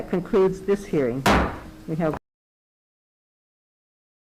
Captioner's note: gavel bangs